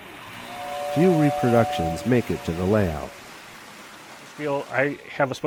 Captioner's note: voiceover